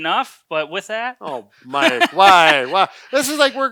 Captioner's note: laughter